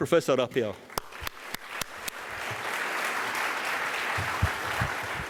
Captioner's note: audience applauds